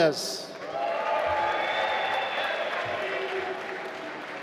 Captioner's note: applause